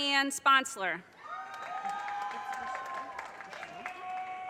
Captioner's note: audience cheers and applause